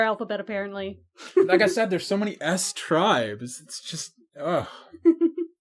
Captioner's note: laborious groan